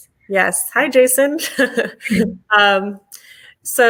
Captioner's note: chuckling